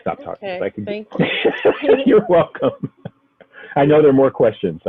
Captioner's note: laughs